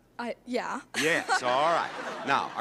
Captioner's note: laughs